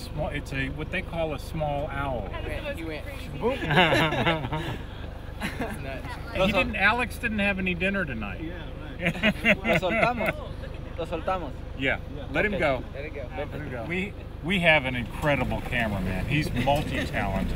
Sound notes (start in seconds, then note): 3.5 laughter; 8.8 speaking Spanish; 9.0 laughs